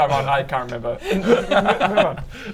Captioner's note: laughs